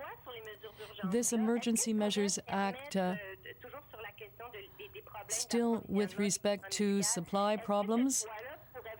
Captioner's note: speaking french